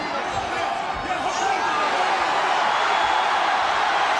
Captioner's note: audience cheering